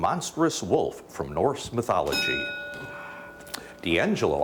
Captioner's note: bell dings